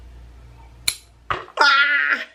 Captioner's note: scissors snip